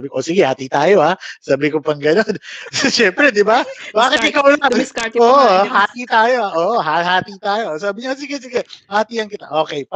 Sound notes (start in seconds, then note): 4.1 laughs